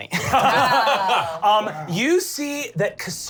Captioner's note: laughing